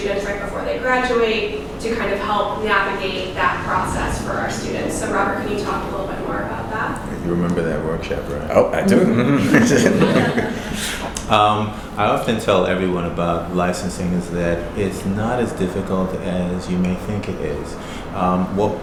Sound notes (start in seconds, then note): 8.7 laughing